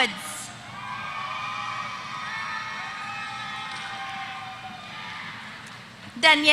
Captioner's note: applause